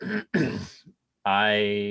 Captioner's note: clears throat